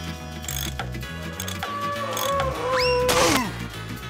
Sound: screaming

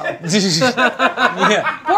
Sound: laughs

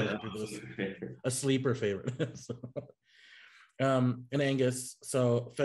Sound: chuckling

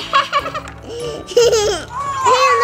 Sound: giggling

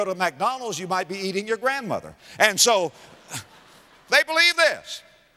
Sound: audience laughter

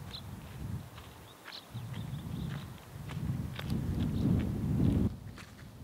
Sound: footsteps thudding softly

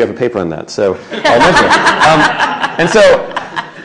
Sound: laughter

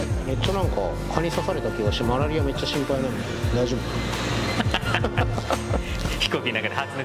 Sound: laughing

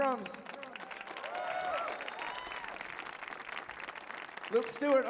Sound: audience cheers and applauds

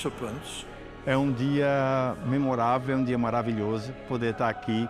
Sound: man speaks Portuguese

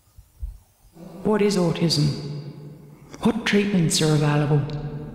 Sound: echo effect thought voice

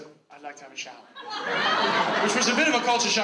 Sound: audience laughs

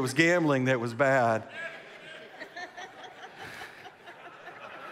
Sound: congregation laughs

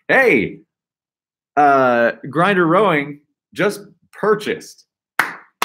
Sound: clapping

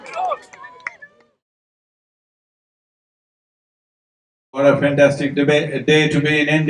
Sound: cheering

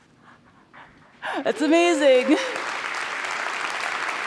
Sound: applause

